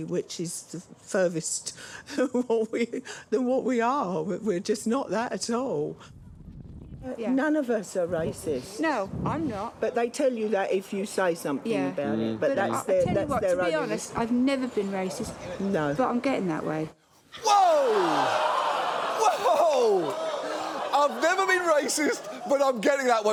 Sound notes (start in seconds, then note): 17.3 audience laughs, gasps